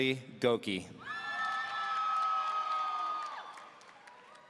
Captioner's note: audience cheering